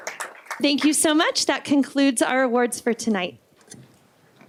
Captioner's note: applause